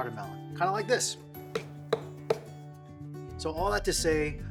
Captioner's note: hollow thumping